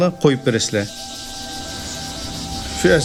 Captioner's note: insects chirring